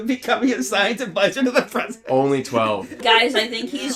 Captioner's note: cracks up